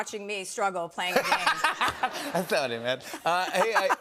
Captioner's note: laughter